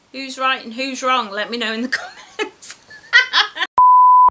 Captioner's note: laughs